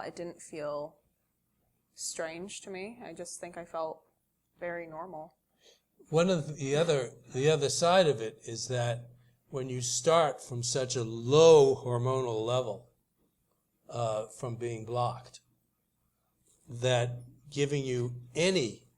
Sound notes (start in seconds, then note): none